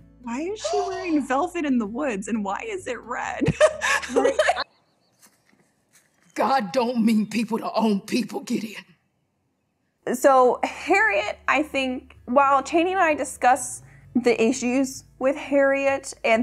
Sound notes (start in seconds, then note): 3.4 laughs